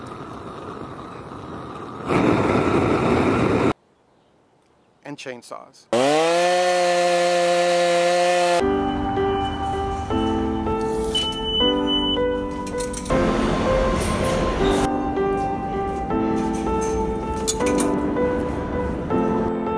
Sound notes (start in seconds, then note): 0.0 fire roaring; 5.9 saw buzzing; 9.3 light piano music